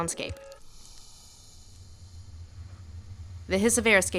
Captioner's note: hiss of air escaping